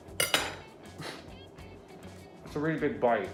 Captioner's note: laughing